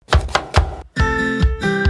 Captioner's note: knife chopping; happy music